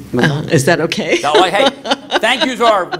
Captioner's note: laughter